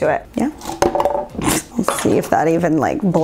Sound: thud

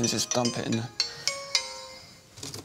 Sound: phone rings

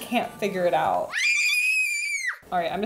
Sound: child screaming

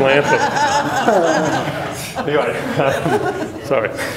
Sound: laughter

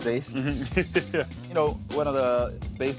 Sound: laughs

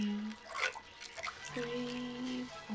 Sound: bathwater babbles

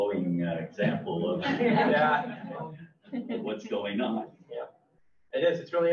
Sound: all laugh

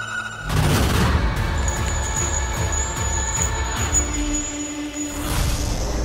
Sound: bells ringing

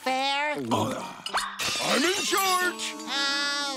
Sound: shattering

